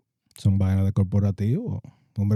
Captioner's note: speaking Spanish